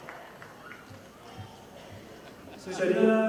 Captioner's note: audience applauding